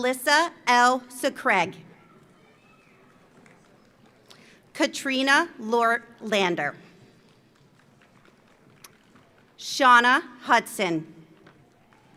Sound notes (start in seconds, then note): 2.6 audience applauds; 7.2 audience applauds; 11.6 audience applauds; 11.9 audience cheers